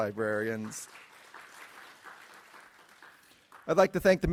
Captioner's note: audience applauding